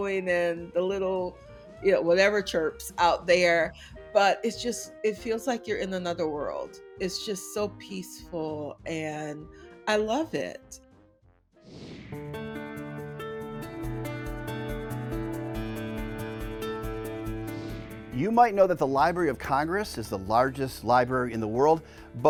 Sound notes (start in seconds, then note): 11.6 screen whooshing; 12.2 lively music